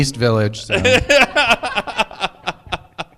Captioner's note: laughter